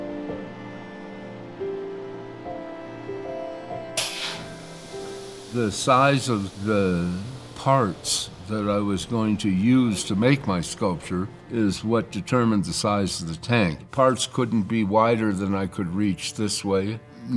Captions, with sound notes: (machine hisses) (machine humming) The size of the parts that I was going to use to make my sculpture is what determined the size of the tank. Parts couldn't be wider than I could reach this way,